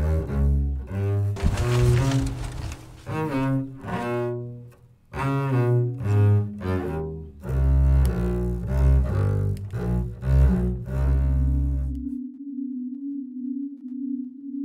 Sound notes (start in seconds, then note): 1.3 paper rustling softly; 10.4 sonorous synth tone